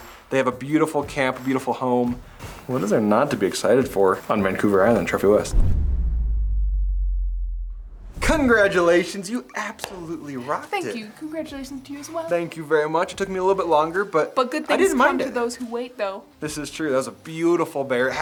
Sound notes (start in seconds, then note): 5.3 air whooshing